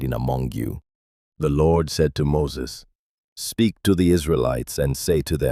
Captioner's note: speaking with authority